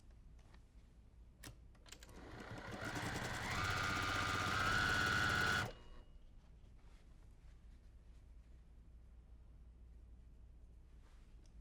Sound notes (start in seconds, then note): 2.2 sewing machine humming